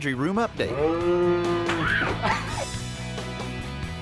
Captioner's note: imitates cow mooing